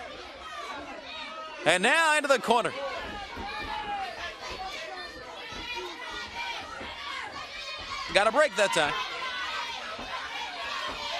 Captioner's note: crowd chatter